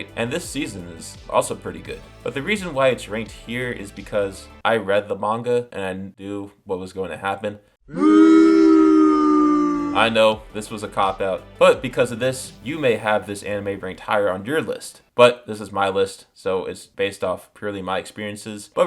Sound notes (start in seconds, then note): 7.9 booing Sounds